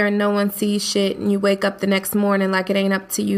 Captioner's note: voiceover